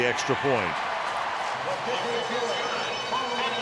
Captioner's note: cheering; pa announcement